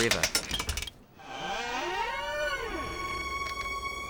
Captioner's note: door creaks; sinister music